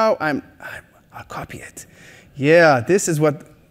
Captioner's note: whisper